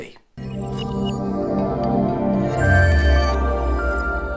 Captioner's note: chiming tone